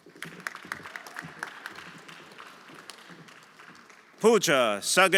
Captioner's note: everyone applauding